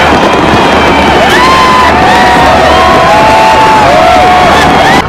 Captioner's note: shouts and cheers